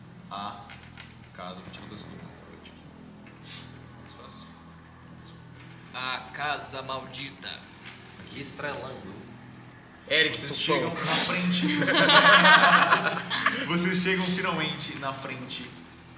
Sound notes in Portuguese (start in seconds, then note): 11.2 Risadas